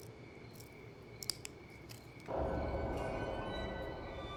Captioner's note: twigs snapping